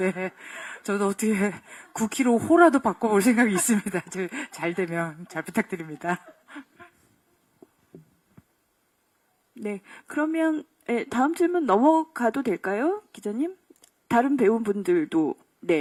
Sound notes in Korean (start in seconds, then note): 3.1 웃음